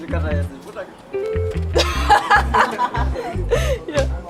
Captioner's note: she laughs